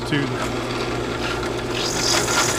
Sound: drill whirring

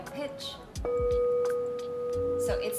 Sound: bowl sounds

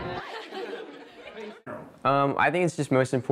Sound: laughter

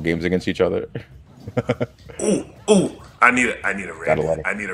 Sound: laugh

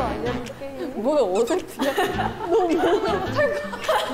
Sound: movement makes them laugh

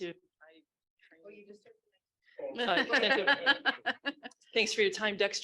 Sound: chattering and laughing

